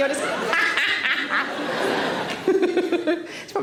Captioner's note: laughs; Sarah cackles